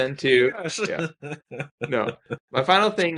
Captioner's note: laughing